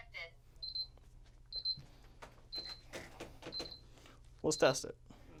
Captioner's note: beeping